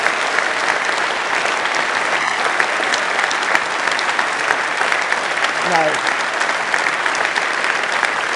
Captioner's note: applause